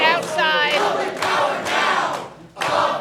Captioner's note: chanting